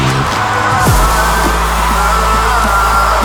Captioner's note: crowd cheering